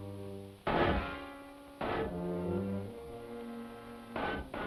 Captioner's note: metal clanging